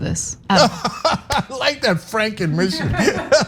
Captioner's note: laugh